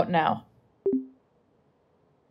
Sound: voice deactivation sound

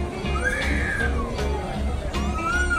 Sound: adventurous guitar music; baby crying

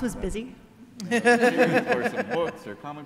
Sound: all laugh

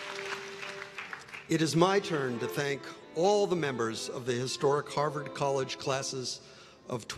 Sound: applause

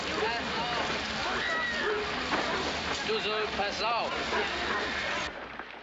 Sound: soldiers yelling; dog barking

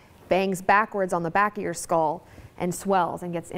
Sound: none

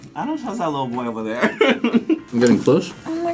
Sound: laughs

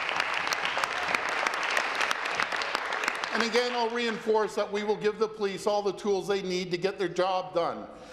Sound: applause

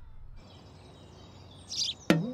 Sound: birds chirp

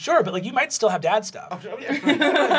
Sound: stuttering; laughter

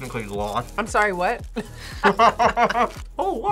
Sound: both laugh

